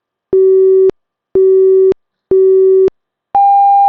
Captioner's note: beeping